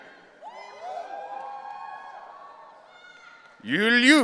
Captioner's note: audience cheering